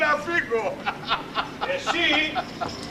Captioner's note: γέλιο